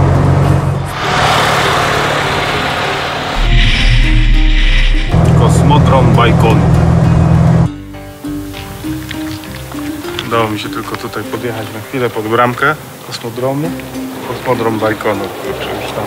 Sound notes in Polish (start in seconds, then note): 1.8 dźwięk jadącego samochodu